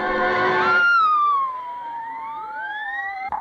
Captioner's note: screams